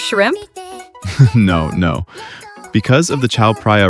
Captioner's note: laughs